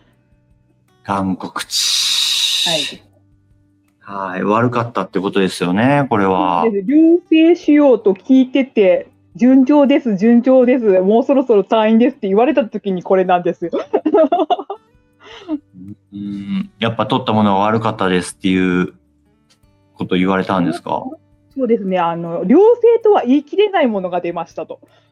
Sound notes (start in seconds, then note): 18.3 laughs